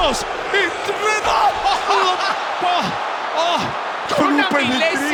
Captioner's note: laugh